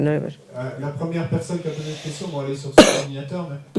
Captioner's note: speaking in French